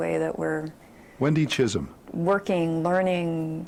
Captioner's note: voiceover